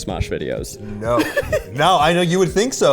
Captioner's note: chuckling